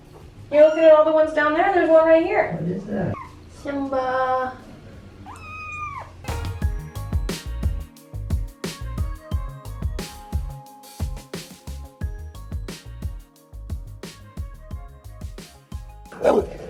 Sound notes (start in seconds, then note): 5.0 ferocious roar